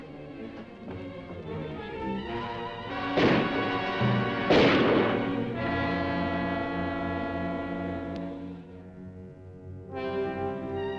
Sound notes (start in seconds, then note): 3.0 gun firing; 5.9 dramatic music